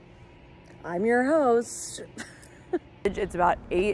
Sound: laughs

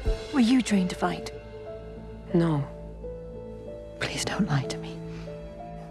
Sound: none

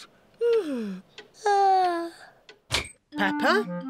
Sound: yawns

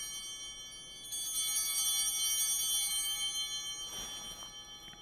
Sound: ringing continues

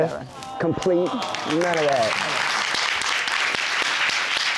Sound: audience clapping

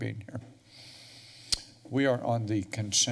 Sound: smacks lips

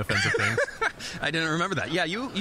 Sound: laughing

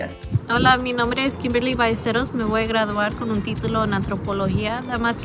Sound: speaks in foreign language

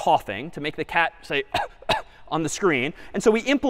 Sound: coughs

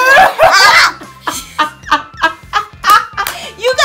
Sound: Creepy laugh by Ms. Molly

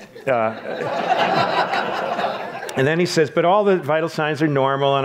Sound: audience laughs

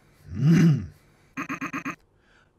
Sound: clears throat again but quickly; unclears throat

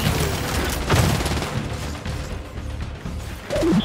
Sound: gunfire

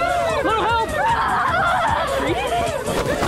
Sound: loud yelling

